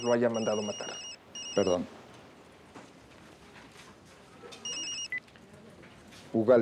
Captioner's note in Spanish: Suena celular